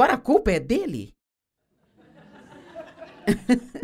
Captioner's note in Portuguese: audiência ri